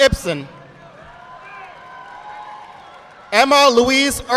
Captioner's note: audience clapping